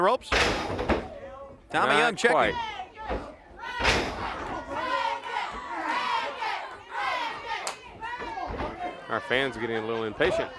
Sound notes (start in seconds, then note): 2.7 crowd cheers